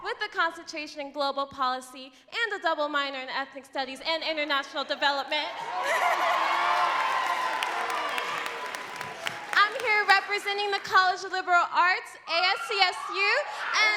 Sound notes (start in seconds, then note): 5.3 crowd cheering and clapping; 5.5 laughing